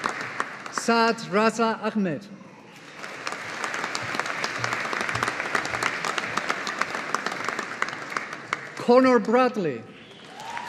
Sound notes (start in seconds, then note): 2.7 audience applauding